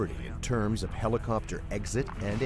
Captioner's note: voiceover